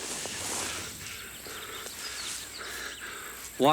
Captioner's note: Anthony pants